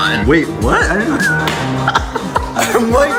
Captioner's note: laughing